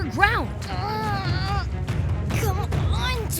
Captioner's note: grunting